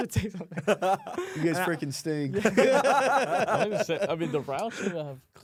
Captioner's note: laughs